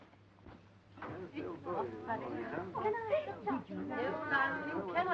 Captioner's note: chattering